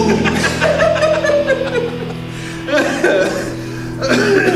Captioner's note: laughing